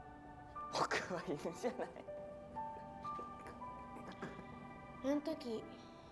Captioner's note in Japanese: 笑い声